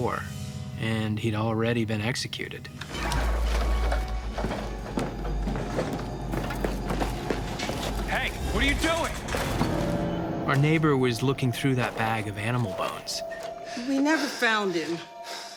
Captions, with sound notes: and he'd already been executed. [footsteps] Hey, what are you doing? Our neighbor was looking through that bag of animal bones. We never found him.